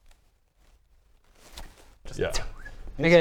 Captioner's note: fling